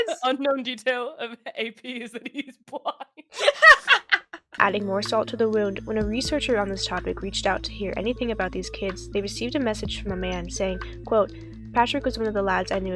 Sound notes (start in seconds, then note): 2.1 both laugh